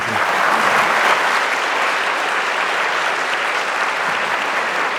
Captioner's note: audience applauding